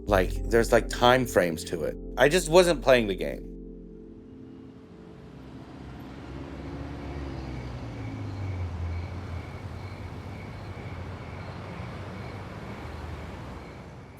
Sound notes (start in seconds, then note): 6.6 crickets chirping; 7.2 engine revving